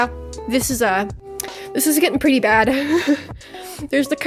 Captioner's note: laughs